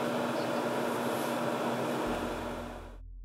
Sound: engine revving; upbeat music

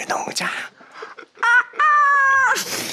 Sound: sound of chicken crying

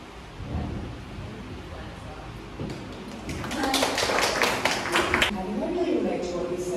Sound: clapping

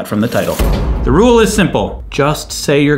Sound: banging

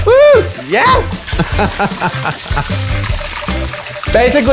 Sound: laughs

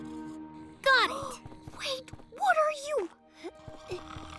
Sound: gasps and whispers

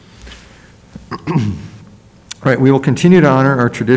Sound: clears throat

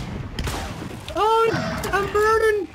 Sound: crows

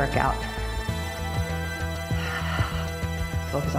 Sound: exhale

